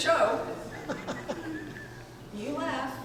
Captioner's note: audience members laughing